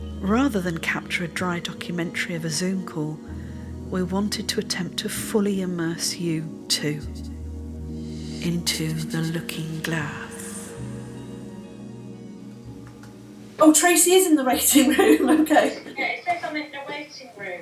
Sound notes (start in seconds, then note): 8.3 echoed voice